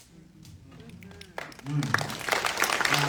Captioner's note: applause